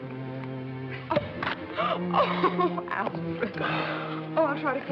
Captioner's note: gasps